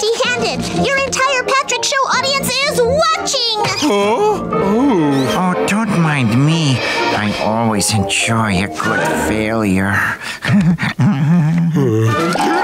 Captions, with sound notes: The entire Patrick Show audience is watching. Huh, oh... Don't mind me. I always enjoy a good failure. [chuckling]